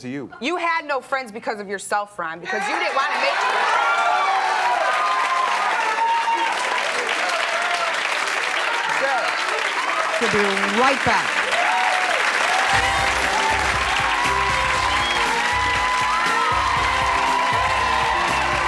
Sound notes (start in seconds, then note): 3.3 audience cheering; 12.6 upbeat music